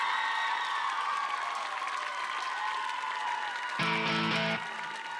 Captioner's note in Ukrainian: оплески